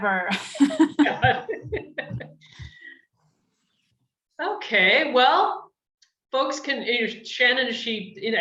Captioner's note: chuckles